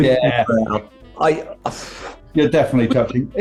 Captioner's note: sighs